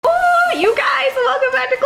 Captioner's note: celebrates loudly